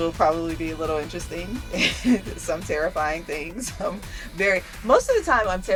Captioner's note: laughs